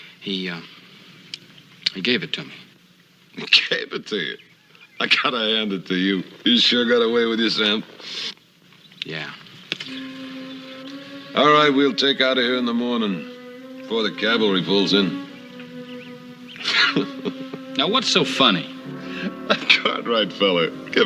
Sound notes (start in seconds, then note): 16.5 chuckles